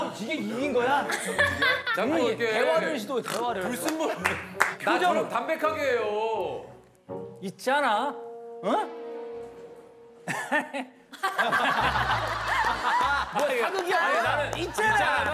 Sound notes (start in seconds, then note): 11.1 an evil laugh